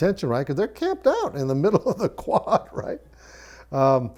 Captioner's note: laughs